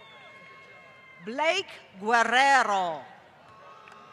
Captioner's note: applause